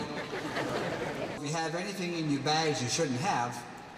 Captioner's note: laughter